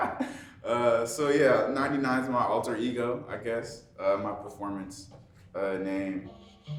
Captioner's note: chuckling